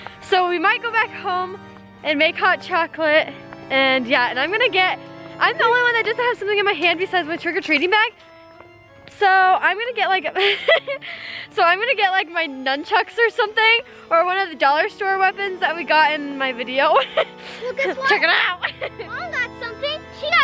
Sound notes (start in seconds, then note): 10.4 laughs; 16.9 laughs